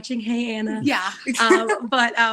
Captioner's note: chuckles